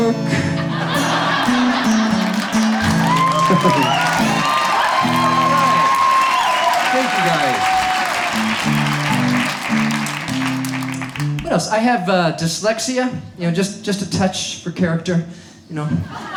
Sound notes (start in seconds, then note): 0.3 audience laughs and cheers; 7.9 audience cheers